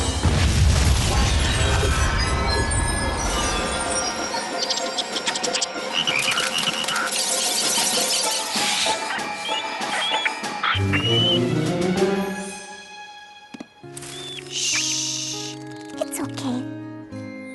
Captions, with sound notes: [ Boom! ] [ Chittering ] Shh. It's okay.